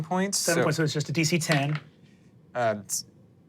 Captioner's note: dice rolling